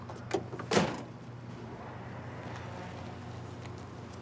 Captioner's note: door slamming